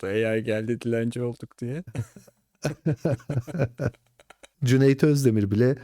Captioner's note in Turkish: kahkaha